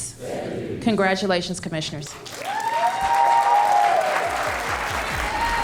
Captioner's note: cheers and applause